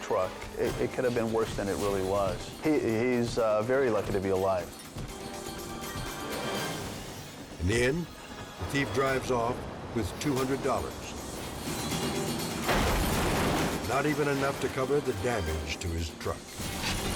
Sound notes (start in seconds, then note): 12.6 glass shatters; 16.9 tense music